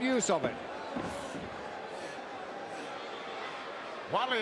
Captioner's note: crowd murmuring